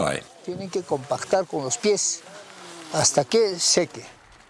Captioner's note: foreign spoken audio